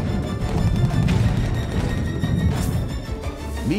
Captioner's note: gunfire